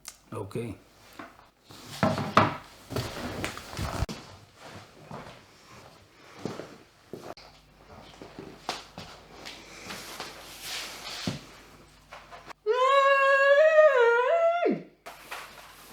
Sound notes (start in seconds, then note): 13.0 muffled begging